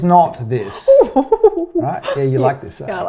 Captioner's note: chortles